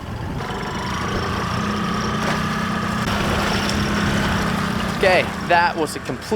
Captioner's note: engine rumbling loudly